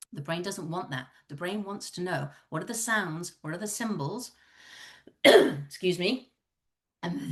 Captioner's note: cough